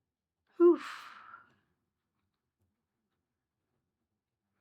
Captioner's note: exhales deeply